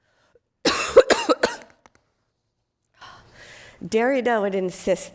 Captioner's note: coughs